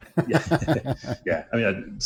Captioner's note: laughter